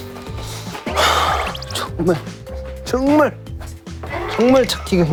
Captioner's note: Dia terus menghela napas